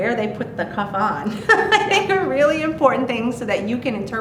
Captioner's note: laughs